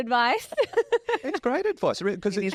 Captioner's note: laughs